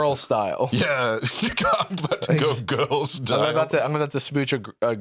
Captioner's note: laughing